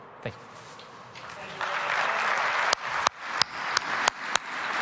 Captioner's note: audience applauding